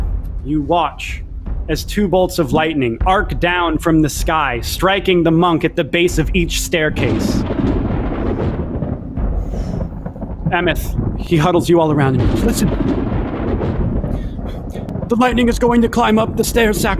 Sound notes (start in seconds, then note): 7.5 thunder booming